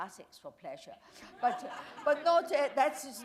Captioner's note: laughter